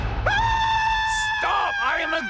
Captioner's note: screams